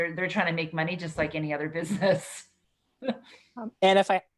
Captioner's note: laughs